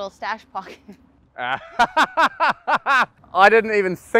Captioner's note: laughs